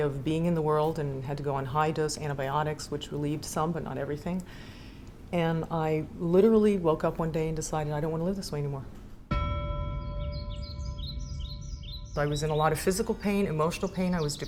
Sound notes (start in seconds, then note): 9.3 bell clanging; 9.9 birds chirping